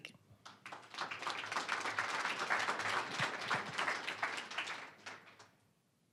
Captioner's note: applause